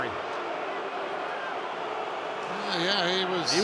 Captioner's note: booing